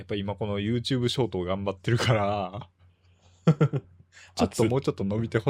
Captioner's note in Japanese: 笑い